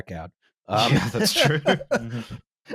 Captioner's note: laughter